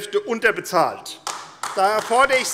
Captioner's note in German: Beifall AfD